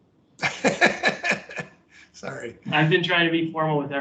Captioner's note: laughs